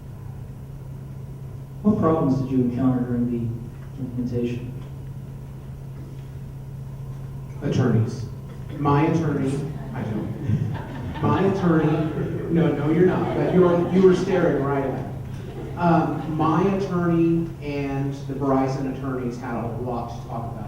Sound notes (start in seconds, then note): 9.5 laughter; 14.8 laughing